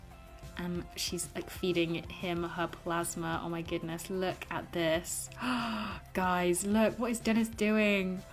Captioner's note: gasps